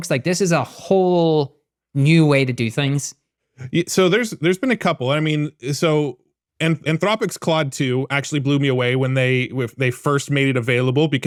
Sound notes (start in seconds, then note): none